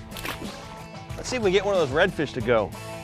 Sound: splash

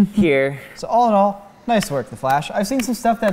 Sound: claps

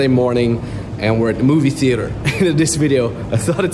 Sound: chuckling

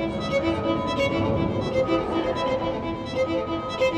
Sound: muted crowd voices echo

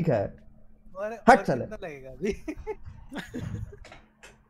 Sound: laughing

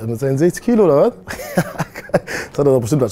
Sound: laughter

